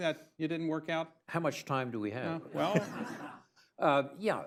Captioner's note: laughter